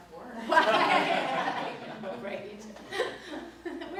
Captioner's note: both laugh